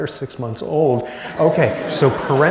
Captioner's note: laughter